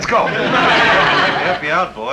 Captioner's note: audience laughing